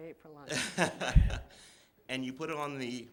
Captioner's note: laughter